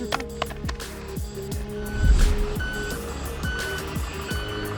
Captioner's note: vehicle reverse sound